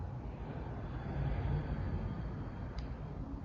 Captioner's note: exhales